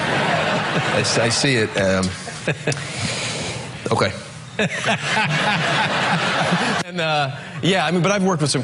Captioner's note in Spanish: risas